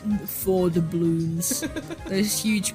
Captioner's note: laughs